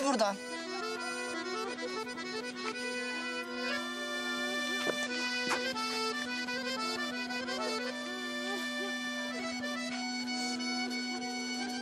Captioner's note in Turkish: Ağlama sesleri